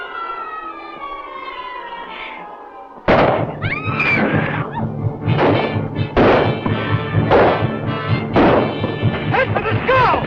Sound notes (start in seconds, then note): 2.8 gunshot; 3.5 screaming; 5.2 gunshots